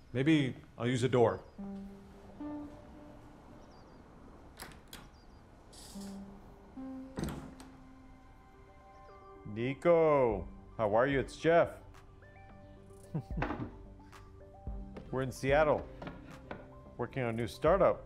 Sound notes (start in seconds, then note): 6.8 door closes; 13.0 laughs